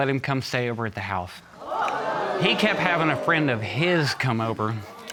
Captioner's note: audience gasps